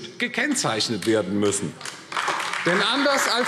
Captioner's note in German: Beifall AfD